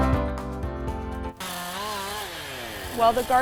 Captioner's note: chainsaw buzzing